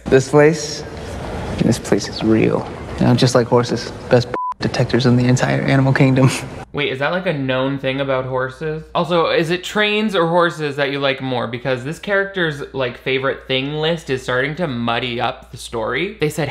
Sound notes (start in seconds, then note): 4.3 beep